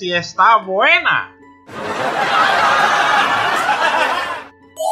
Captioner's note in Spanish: Risas